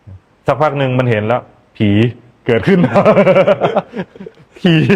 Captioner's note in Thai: เสียงหัวเราะ